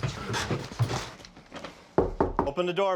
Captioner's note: knock on door